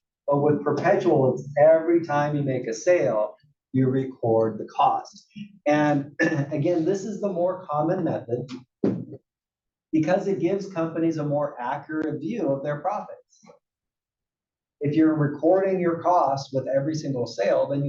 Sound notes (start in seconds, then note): 6.1 cough